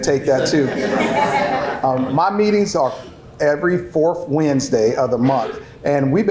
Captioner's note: laughter